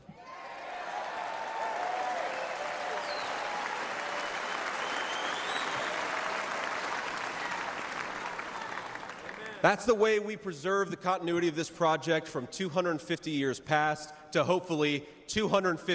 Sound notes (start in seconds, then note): 5.5 cheers and applause